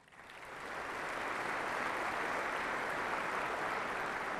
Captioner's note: applause